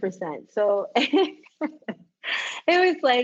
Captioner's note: laughs